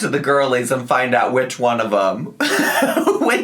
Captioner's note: laughing